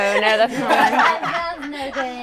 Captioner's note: all laughing